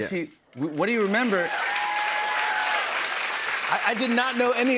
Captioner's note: cheers and applause